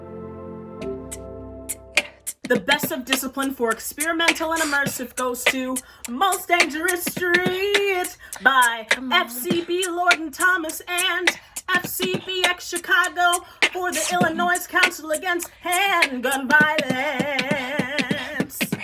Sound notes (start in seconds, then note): 1.4 beatboxing